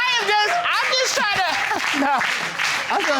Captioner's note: chuckles